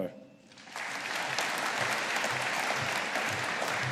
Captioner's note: audience applauding